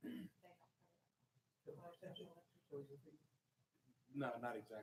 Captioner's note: speaking faintly